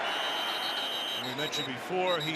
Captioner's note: whistling